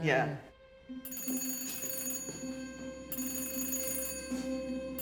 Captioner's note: phone ringing